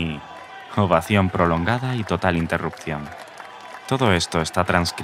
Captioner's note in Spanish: Ovación prolongada y total interrupción